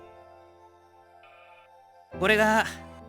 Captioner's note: silence